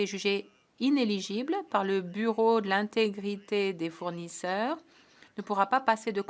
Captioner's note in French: voix de l'interprète